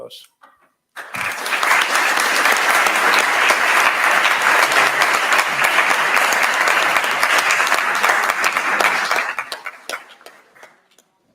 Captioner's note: applause